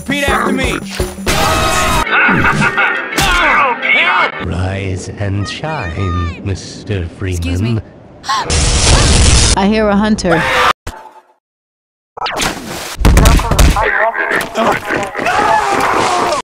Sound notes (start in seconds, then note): 3.2 nick screams in pain; 8.5 explosion!; 12.9 intense punching; 13.7 metrocop chatter while citizen is pulled away